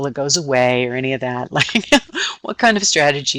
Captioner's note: laughing